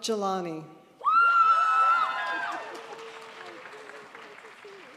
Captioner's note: crowd applauds